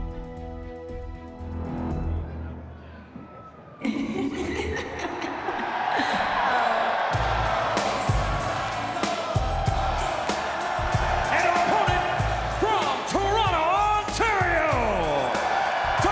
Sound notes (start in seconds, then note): 0.0 suspenseful music; 5.4 people cheering; 7.1 upbeat music